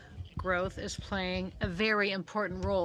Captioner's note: speaking french